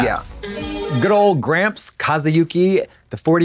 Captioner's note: bright chime